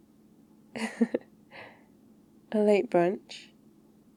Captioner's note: laughs